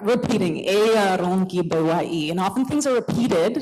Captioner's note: non-english